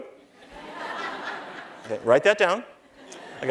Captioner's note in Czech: Smích